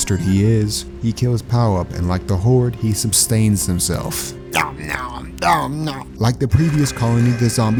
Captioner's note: eating noise effect